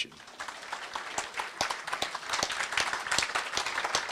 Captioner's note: applause